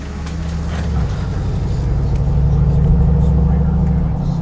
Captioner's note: car engine revving